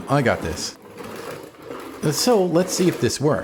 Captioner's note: sweeping Sounds